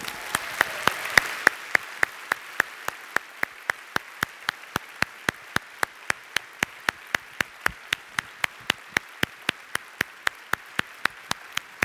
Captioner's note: applause